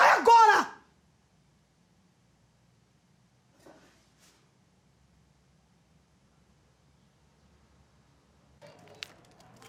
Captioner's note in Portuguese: silêncio